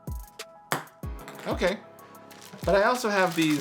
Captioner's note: relaxed electronic music; ping pong ball clacks